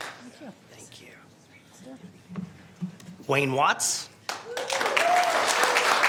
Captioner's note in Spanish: aplausos